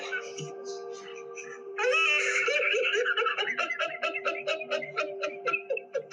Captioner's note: laughing sobs